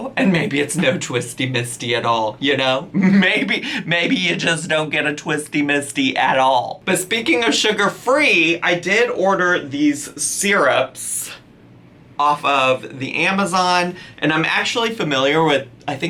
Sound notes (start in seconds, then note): 2.9 laughs